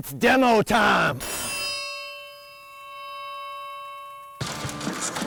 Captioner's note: triangle ringing; upbeat rock music